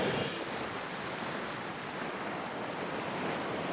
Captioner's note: waves crashing